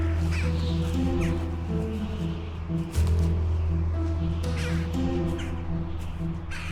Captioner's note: birds chirping; dramatic music